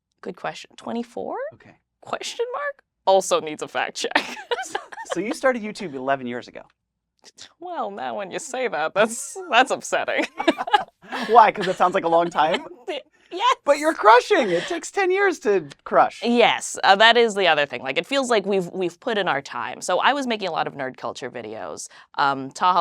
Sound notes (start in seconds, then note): 4.1 laughs; 10.1 both laugh